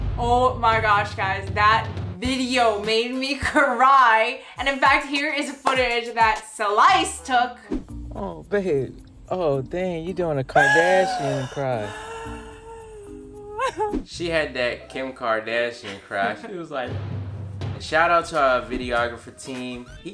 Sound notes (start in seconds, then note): 12.1 sobbing; 12.1 string piccolo music; 16.8 drums booming